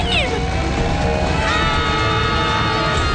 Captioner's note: screaming